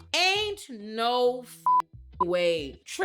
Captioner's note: beep